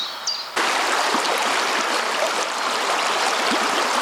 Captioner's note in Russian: шум реки